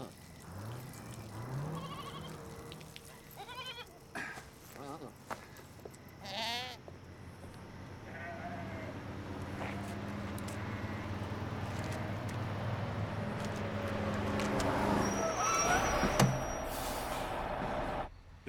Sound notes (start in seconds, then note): 0.0 vehicle approaches; 1.5 gos bleating; 6.2 bleats; 7.3 vehie approaches; 15.1 brakes sealing; 16.4 thud